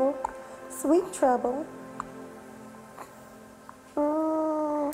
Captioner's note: smooches